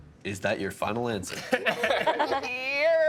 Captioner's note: laughing